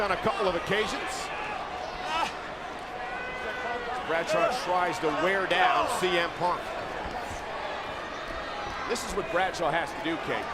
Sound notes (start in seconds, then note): 7.6 crowd cheers